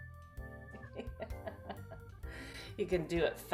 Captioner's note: laughs